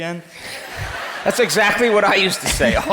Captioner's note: crowd laughs